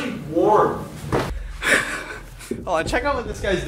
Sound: laughs

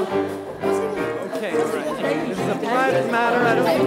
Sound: chatter amongst everyone

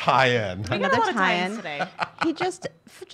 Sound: laughing

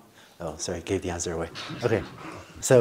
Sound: laughter

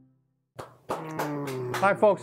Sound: clapping

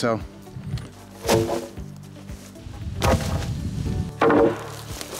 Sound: wood banging

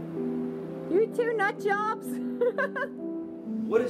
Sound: laughs

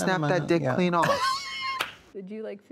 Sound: Katya claps and wheezes

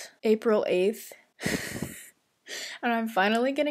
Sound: laughs sadly

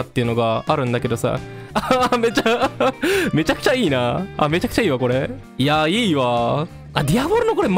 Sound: laughter

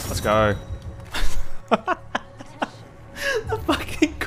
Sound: laughs

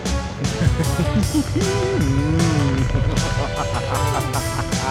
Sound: גנב צוחק בצורה מרושעת

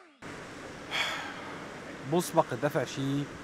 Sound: groaning in exasperation

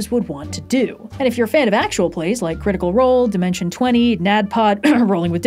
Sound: cough

